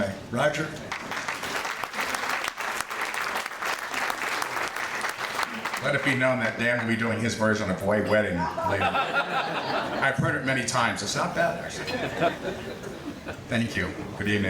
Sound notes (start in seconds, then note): 0.9 audience applauding; 8.4 audience laughing